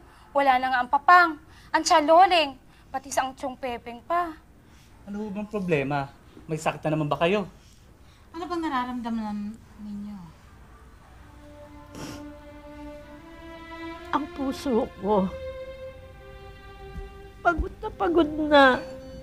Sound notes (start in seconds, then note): 11.0 dramatic music playing; 11.9 sobbing